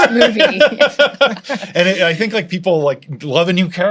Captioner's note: laughter